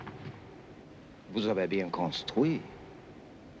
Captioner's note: speaking french